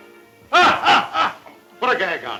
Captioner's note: Morgan laughs loudly